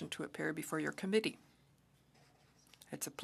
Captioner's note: speaking French